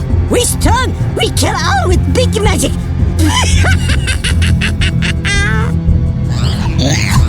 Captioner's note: laughs